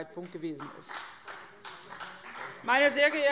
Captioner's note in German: Beifall CDU